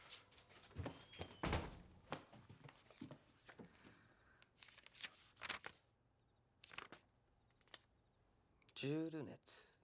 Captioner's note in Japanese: ドアが閉まる音